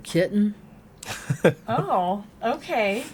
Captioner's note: laughing